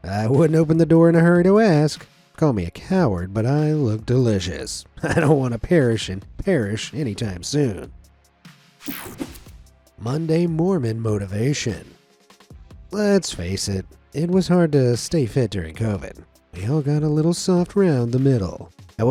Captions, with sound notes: I wouldn't open the door in a hurry to ask. Call me a coward, but I look delicious. I don't wanna perish in Parrish anytime soon. (screen whooshing) Monday Mormon motivation. Let's face it, it was hard to stay fit during COVID. We all got a little soft round the middle.